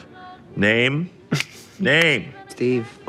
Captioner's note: fingers snapping